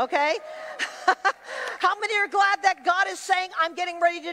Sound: laughs

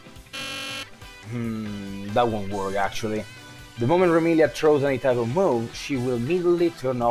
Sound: hrm

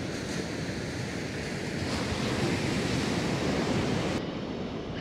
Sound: the sound of the waves grows softer

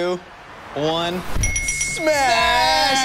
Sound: dinging

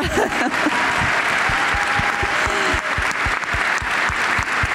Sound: applause

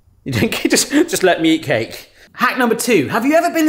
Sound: chuckles

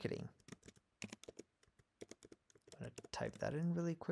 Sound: keyboard clicking

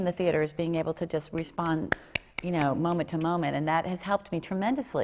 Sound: clap clap

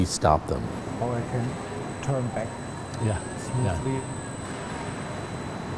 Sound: whirring drowns out conversation

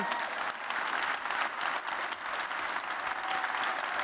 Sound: applause

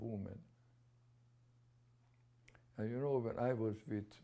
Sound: pauses for 3 seconds

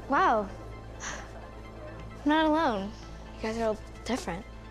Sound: sighs

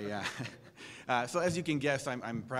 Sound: laugh

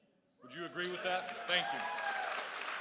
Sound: crowd cheers

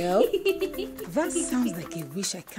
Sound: giggling

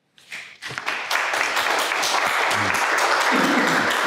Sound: crowd applause

